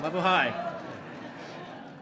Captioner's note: laughter